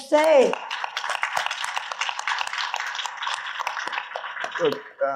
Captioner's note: audience applauding